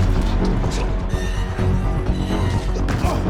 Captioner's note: metal creaks